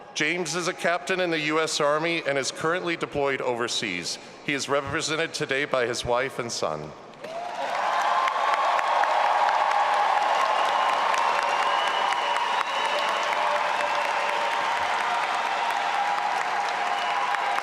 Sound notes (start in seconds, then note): 7.4 all applauding and cheering